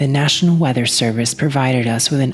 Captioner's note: gutteral screaming